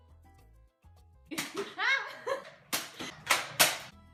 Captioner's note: nerf gun fires; Joana laughs; chill music continues